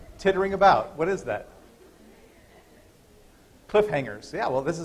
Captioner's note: laughter